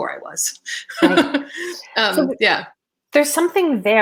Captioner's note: laughing